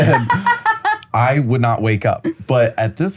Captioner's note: laughs